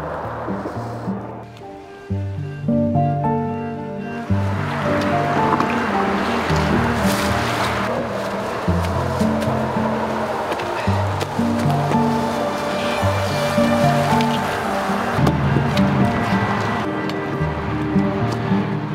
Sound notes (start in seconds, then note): 0.1 vehicles on bridge whooshing; 4.6 water splashing; 7.5 melancholy light classical music continuing; 10.0 leaves underfoot crunching; 10.0 undergrowth rustling; 13.7 melancholy light classical music continuing